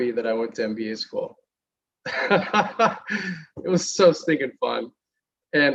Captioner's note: laughter